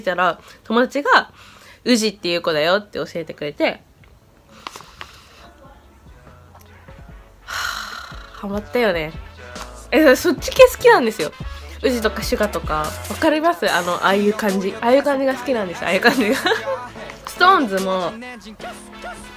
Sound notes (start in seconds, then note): 7.5 that sigh